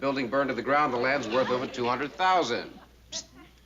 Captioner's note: whispering